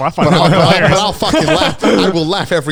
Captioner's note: all laughing